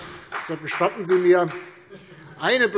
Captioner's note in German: Demonstrativer Beifall